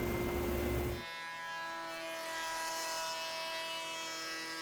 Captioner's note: machine whirring